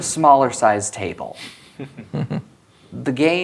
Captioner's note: chuckling